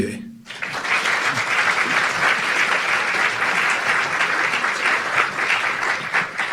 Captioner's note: audience clapping